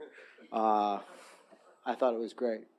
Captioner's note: audience chuckling